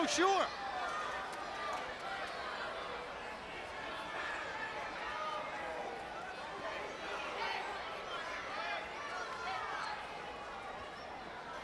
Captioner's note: crowd chatter